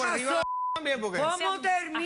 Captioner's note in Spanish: Bip